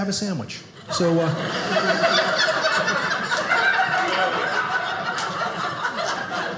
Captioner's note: audience laughing